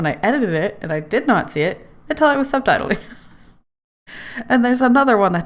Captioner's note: laughs